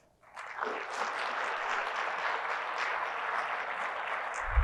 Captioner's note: audience clapping